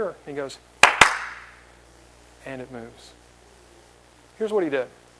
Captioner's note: claps